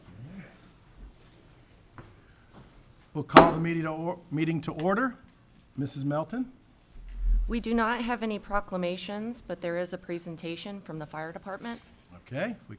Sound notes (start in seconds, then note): 3.4 gavel taps